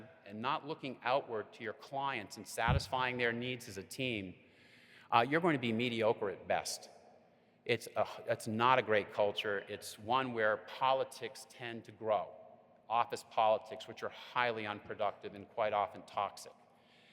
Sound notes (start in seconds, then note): none